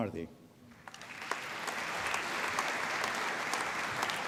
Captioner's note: applause